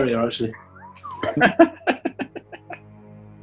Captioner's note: laughing